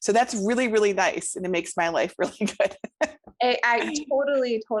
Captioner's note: laughs